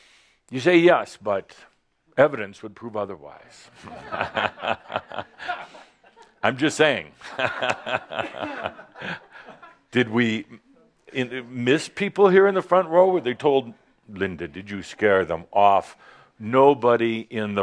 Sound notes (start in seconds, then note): 4.2 laughter; 7.4 chuckles